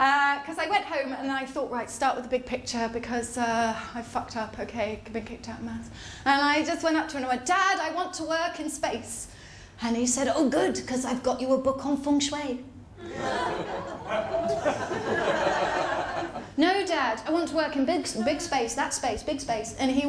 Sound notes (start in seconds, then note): 13.0 audience groans and laughs